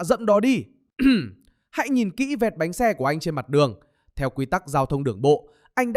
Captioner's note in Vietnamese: hắng giọng